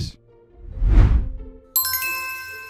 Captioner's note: swooshing; bell dinging